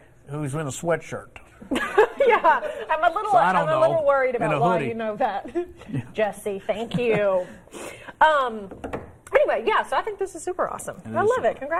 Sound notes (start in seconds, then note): 5.4 laughter